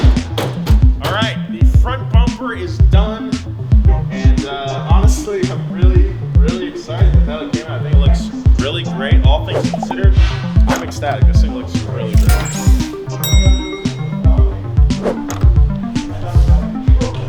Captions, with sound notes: All right, the front bumper is done. And honestly, I'm really, really excited with how it came out. I think it looks really great. All things considered, I'm ecstatic. This thing looks really great. (bell dinging)